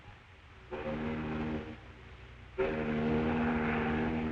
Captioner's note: foghorn